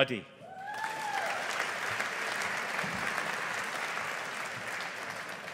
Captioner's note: audience applauding